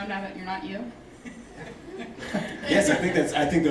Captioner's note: laughing